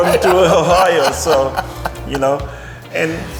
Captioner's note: laughing